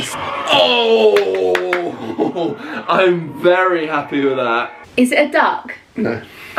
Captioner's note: hands clapping